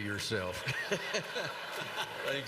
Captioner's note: laughter